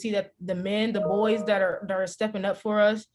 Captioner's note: chime